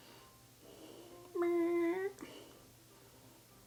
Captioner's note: cat snoring